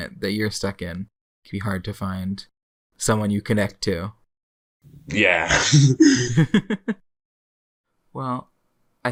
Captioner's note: both laugh